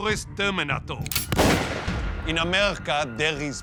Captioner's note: gunshot